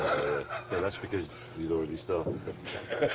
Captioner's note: jeremy chuckles; jeremy laughs